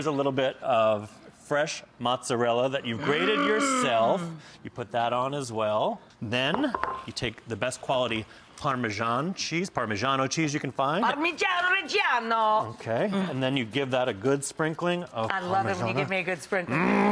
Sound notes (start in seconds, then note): 11.1 speaks in foreign language